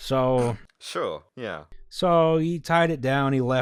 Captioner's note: snort